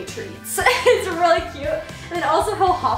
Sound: laughs

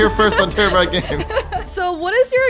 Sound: laughing amusingly

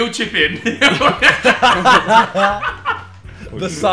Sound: laughing

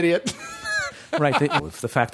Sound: laughter

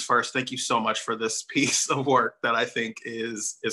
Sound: chuckles

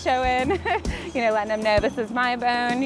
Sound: laughs

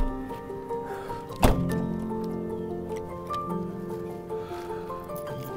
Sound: car door closes

